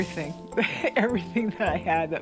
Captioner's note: laughs